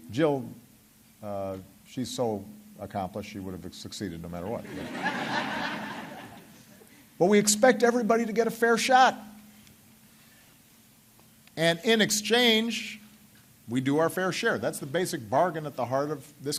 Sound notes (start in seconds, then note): 7.2 laughter